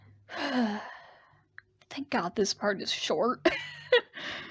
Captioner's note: sigh; laughs